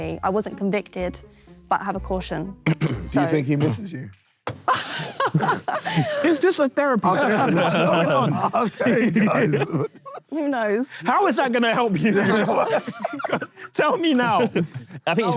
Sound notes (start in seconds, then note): 4.6 laughs; 7.0 Sidemen laugh